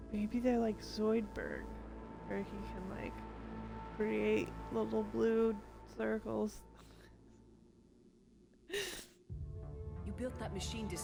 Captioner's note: laughter